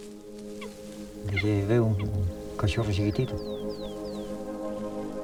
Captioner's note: speaking Spanish